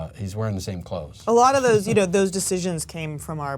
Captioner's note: chuckling